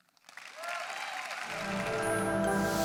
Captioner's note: audience applauds; calm music